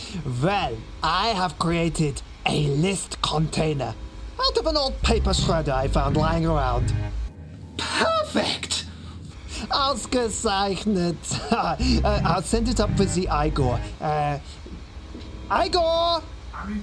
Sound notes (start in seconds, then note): 9.7 Dr. Von Pomplenickel speaks in foreign language